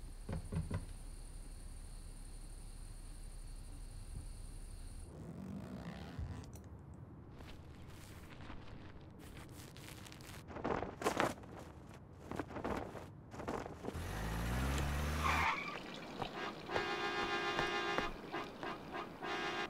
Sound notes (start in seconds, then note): 0.0 crickets chittering; 5.0 zipper buzzing; 13.9 brakes screeching; 13.9 engine whirring; 16.3 car horn honking